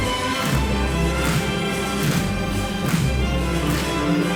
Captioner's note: medium tempo upbeat classical music; bodies thudding